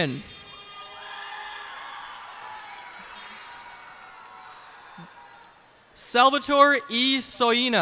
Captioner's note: cheers and applause